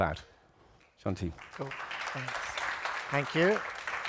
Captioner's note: applause